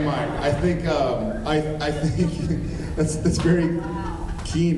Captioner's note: laughing